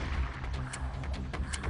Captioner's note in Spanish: Disparo